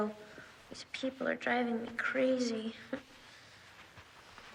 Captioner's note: scoffs